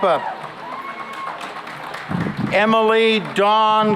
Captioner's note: cheering and applause